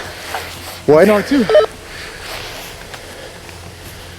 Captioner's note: vocalizing